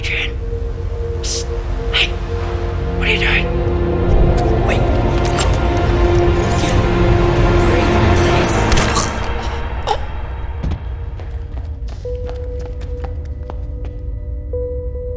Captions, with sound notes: Adrian, hey, what are you doing? (magical whooshing) (cracking) (ominous music)